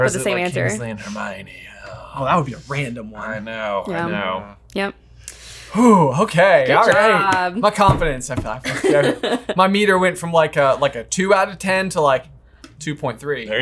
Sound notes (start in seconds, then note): 8.6 laughing